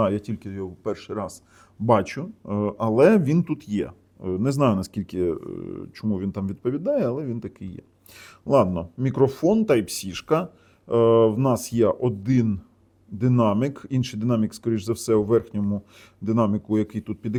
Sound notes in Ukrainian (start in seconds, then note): 8.0 сопіння